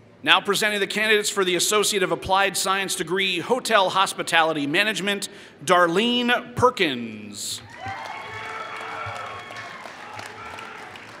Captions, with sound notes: Now presenting the candidates for the associate of applied science degree hotel hospitality management Darlene Perkins. [Applause]